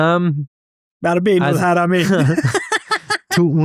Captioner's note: laughs